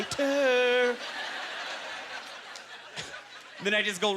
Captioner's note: audience laughter